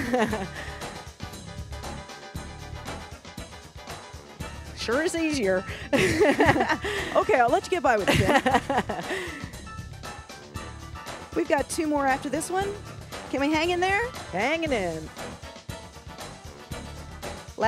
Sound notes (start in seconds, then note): 0.0 laughs; 0.2 upbeat music; 5.6 both laugh; 7.9 laughs; 15.1 upbeat music